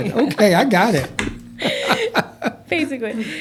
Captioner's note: laughter